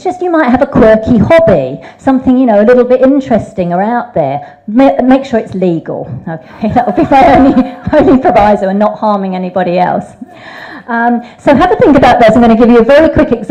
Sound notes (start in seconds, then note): 6.5 laughs; 6.6 audience laughs